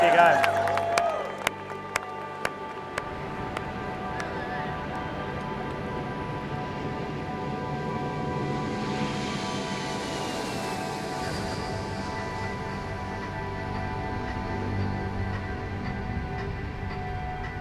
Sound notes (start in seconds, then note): 0.0 audience applauding; 10.0 airplane whooshing; 15.0 soft music